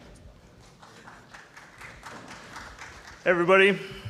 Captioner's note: applause